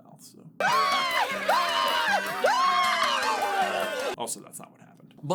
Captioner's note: rabid screaming